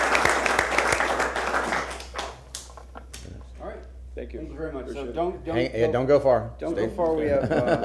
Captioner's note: applause